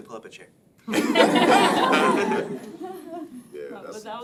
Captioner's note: laughing